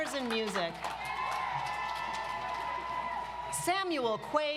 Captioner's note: audience applauds